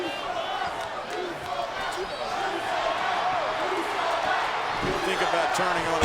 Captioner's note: crowd chants "You sold out"